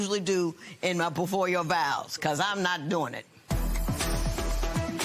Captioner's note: none